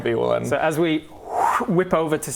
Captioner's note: whoosh